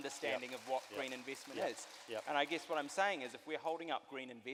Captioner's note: audience applauds